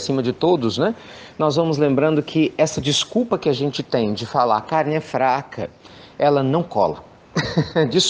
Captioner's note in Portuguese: risos